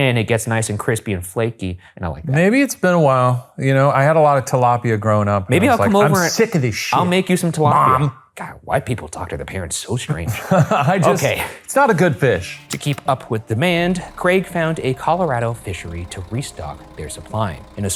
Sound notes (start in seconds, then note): 10.1 laughing